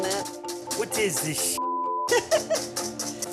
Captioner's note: French accent; speaking French